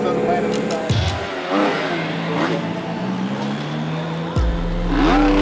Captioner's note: car engine roaring